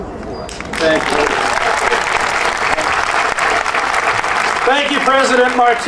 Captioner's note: audience cheering and applauding